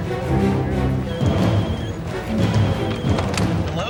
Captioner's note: phone ringing